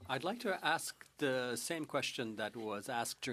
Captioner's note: speaking French